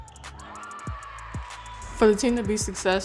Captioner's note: cheering